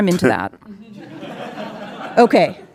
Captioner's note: audience laughing